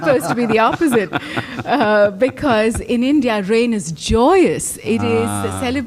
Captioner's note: laughter